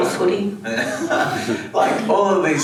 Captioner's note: everyone laughs